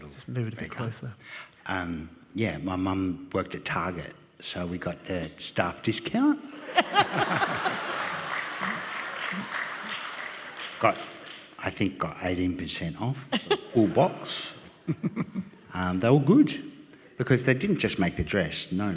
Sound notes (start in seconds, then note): 6.6 audience laughing and applauding